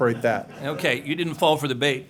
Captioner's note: laughter